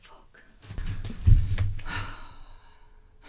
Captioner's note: sigh